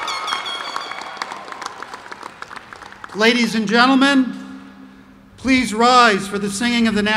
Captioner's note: cheers